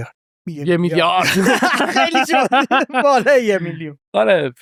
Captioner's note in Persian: خنده